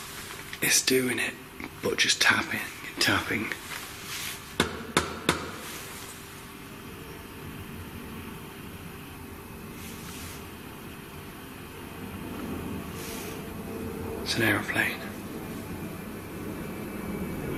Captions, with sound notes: is doing it but just tapping, and tapping. (tapping on door) (aeroplane flying) It's an aeroplane.